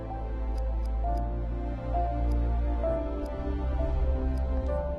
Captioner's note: TICKlNG